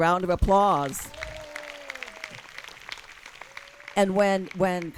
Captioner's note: audience claps and cheers